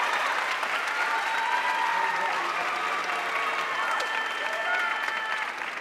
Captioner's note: audience cheering and applauding